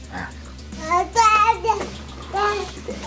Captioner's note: baby screams